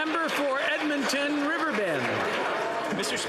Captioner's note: some Applause